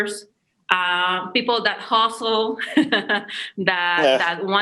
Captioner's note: laughs